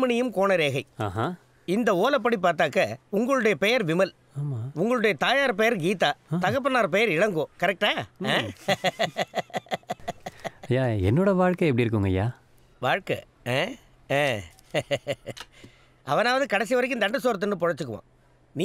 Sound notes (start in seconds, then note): 8.4 pleased laughter